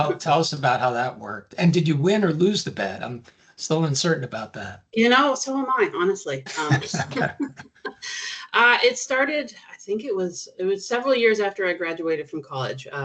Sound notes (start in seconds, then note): 6.5 chuckling